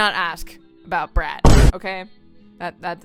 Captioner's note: boom